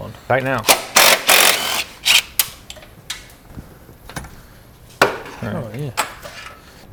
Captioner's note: impact wrench rattling